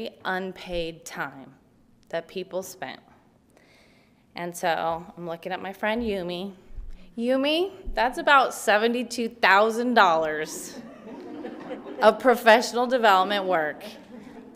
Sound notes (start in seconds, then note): 10.6 participants laughing